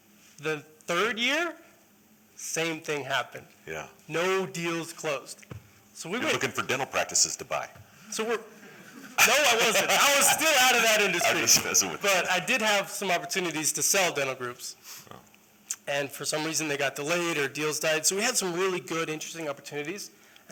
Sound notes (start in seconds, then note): 8.5 laughter